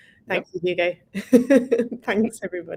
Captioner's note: laughing